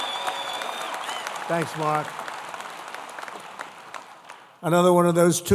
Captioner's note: applause